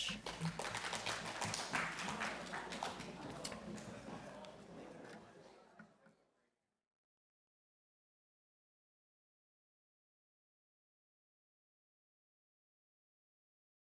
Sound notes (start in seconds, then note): 0.0 applause